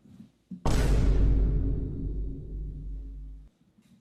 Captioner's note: boom